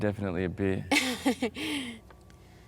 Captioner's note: Harding laughs